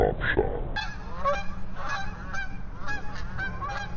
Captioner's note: geese honking